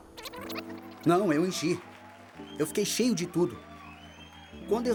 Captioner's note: voiceover